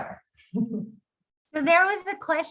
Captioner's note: chuckles